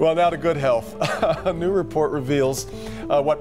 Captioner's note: laughter